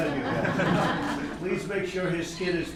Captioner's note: laughter